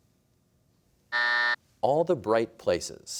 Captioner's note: buzzer